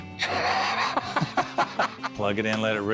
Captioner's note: laughter